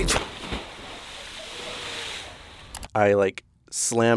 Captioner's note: water splashes